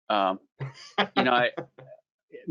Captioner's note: laughs